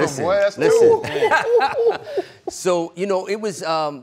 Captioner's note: they Laugh